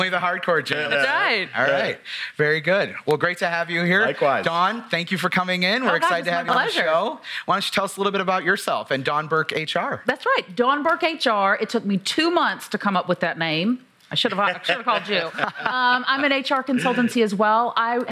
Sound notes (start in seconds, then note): 0.0 laugh; 14.4 laughs